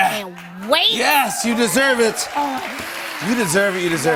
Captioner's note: cheers and applause